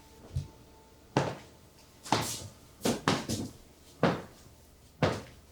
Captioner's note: Fredriech stomping